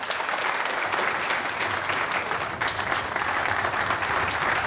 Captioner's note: applause